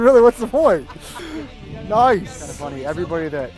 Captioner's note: laughs